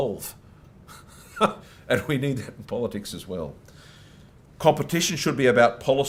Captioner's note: chuckles